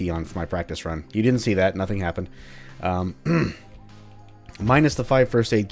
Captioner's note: clears throat